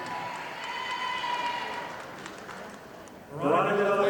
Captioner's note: audience applauding